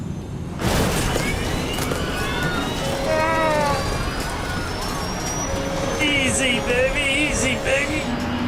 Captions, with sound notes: (plane crashes) (alarm blaring) Easy baby, easy baby.